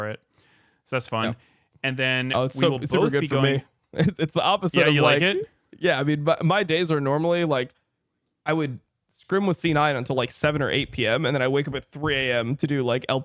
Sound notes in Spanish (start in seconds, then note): 4.0 risas